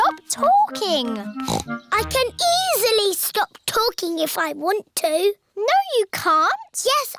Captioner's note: snorts